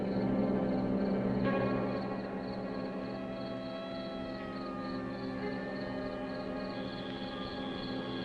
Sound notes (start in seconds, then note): 3.7 siren blaring